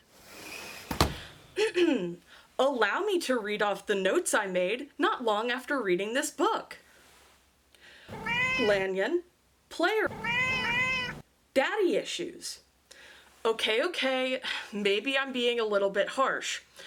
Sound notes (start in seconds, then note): 0.8 swish and thunk; 8.1 meow; 10.0 meow